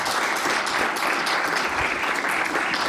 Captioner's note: applause